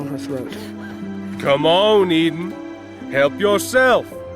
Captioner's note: taunting